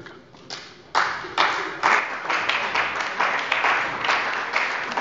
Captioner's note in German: Beifall bei der CDU und dem BÜNDNIS 90/DIE GRÜNEN